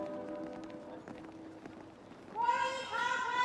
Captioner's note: footsteps patter